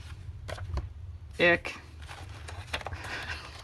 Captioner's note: laughs